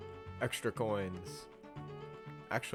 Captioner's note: none